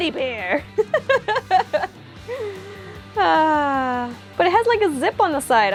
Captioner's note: laugh